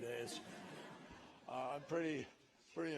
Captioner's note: laughter